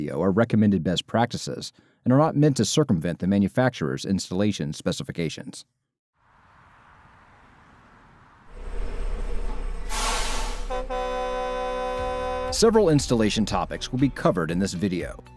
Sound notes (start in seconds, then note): 8.5 large truck braking and horn sound effect